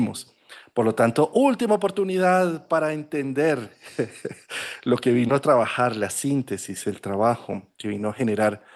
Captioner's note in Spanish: risas